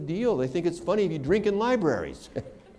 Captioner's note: laughter